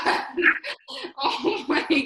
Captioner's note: laughs